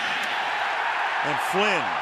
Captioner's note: cheering